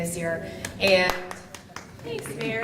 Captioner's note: applause